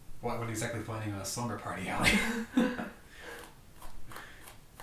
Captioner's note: chuckles